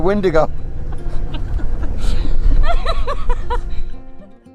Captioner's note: both laughing; gentle music